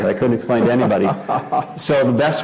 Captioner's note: laugh